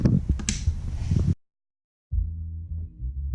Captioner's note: soft click